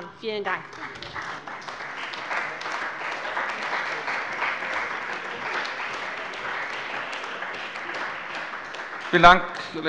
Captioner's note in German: Beifall bei der CDU und dem BÜNDNIS 90/DIE GRÜNEN